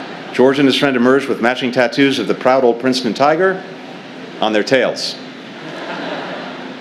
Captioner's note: laughter; laughter